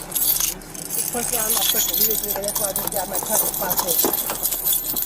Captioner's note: key jingle and click in door lock